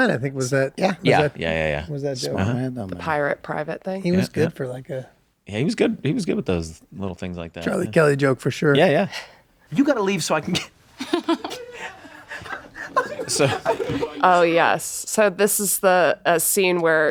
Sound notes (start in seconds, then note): 14.4 laughs